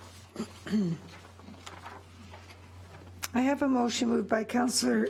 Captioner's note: clears throat